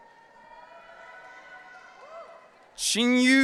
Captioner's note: audience cheering